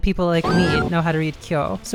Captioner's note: ominous noise; woman screaming